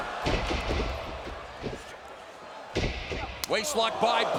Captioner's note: boots thumping; elbow slapping